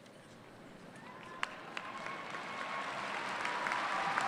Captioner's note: applause